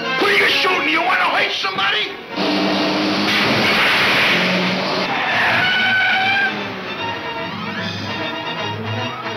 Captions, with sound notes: You wanna hurt somebody? (crashing) (tires squealing)